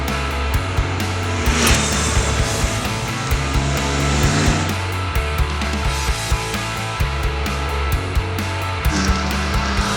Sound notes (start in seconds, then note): 0.7 motorcycle revving over music; 3.6 motorcycle revving over music